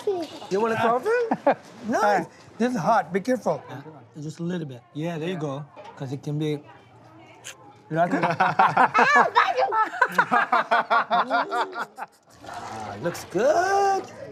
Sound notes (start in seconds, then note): 10.4 laughter